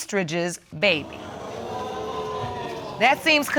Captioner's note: audience exclaiming